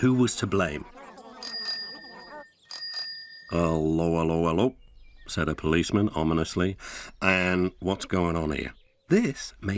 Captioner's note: several high-pitches voices talking; bicycle bell rings twice